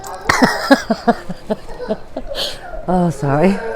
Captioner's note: laughing